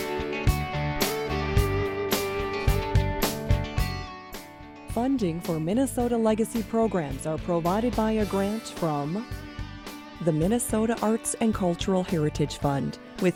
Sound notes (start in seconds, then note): 5.1 voiceover